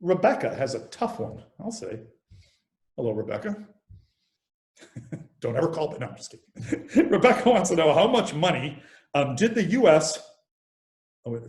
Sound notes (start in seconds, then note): 5.0 laughs